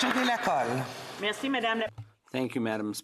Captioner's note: some Applause